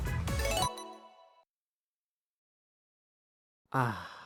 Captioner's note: silence